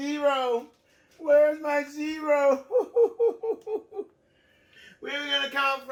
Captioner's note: imitates sobs